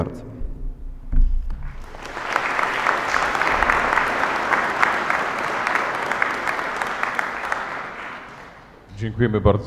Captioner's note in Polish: oklaski